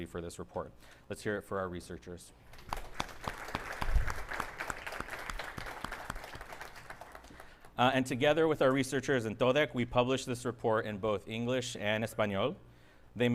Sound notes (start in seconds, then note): 2.5 audience applauding